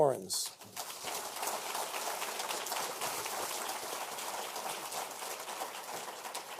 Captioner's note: applause